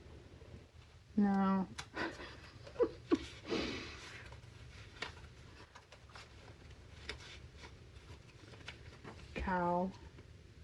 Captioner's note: laughs